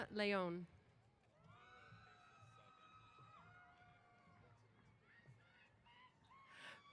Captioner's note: cheers